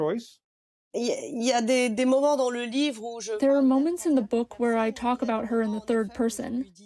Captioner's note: through translator